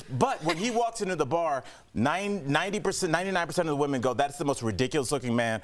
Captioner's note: laughter